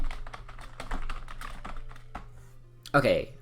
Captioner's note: typing noises